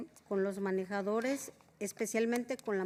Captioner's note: spanish